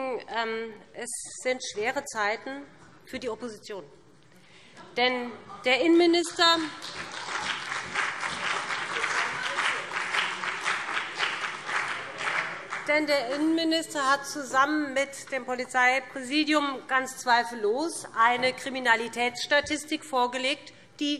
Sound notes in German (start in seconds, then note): 4.8 Beifall BÜNDNIS 90/DIE GRÜNEN und CDU - Lachen SPD